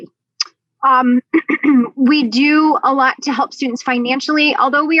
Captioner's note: cough